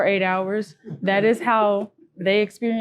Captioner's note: group laughing